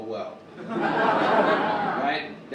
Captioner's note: audience laugh